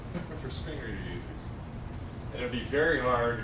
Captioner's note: laugh